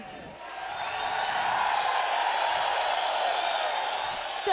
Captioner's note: audience cheering